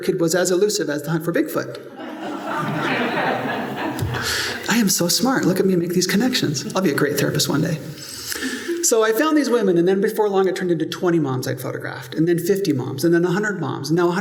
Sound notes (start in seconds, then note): 1.9 laughter